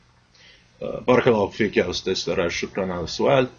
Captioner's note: speaking Arabic